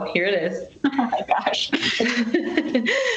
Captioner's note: laughs